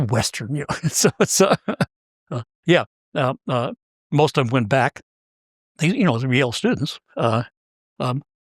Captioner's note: laugh